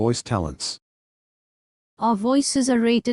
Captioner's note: indian English Female Computer Voice